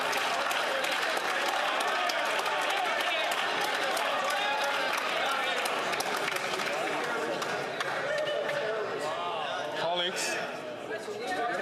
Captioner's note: some Applause